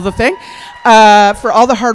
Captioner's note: cheers; applause